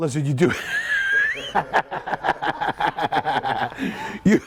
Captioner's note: all laughing